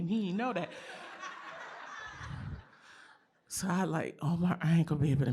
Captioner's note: laughter